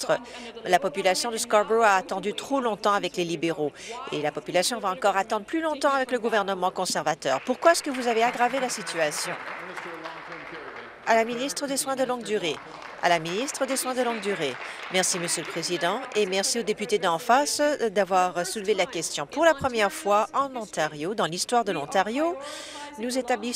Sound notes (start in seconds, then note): 11.1 applause